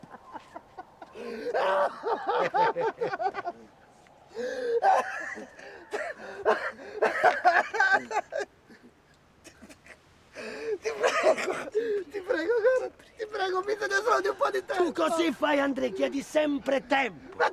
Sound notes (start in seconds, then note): 1.0 crying in pain